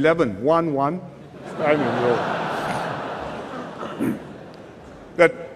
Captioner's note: laughter